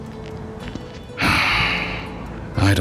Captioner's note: suspiro